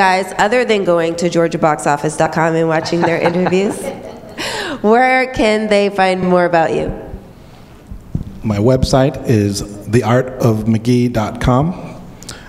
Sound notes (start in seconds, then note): 2.6 laughing